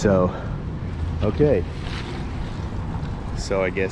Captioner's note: street noise